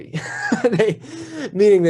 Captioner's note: laughs